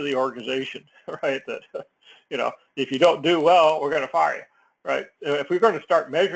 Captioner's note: laugh